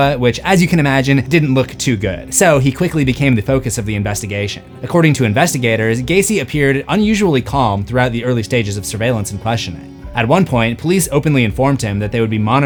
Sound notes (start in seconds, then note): none